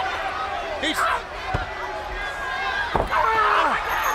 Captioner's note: crowd chatter